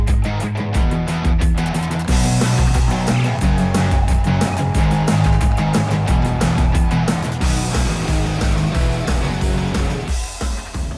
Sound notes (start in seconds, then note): 1.7 cheering